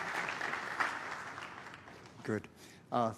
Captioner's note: applause